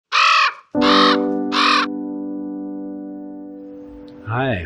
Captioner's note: bird crowing; gentle piano